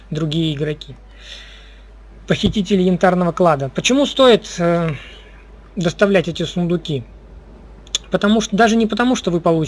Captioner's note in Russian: тяжело вздыхает